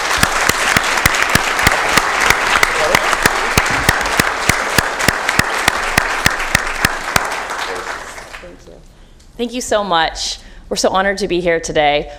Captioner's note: applause